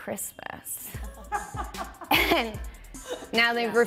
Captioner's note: laughing